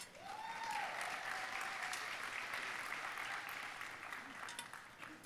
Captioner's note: audience cheering and applauding